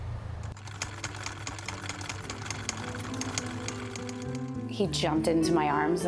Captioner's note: sewing machine chucking